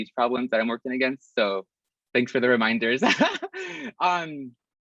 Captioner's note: risas